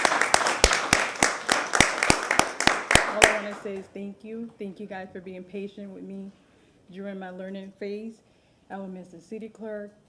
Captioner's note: applause